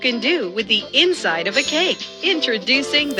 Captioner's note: sparkle sound effect